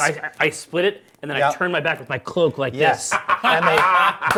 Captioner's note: Viari laughs